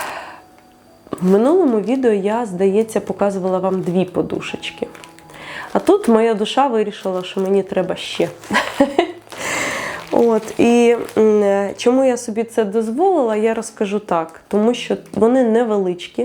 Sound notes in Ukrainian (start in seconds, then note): 8.5 сміх